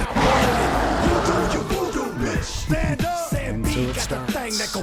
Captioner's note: infected Roaring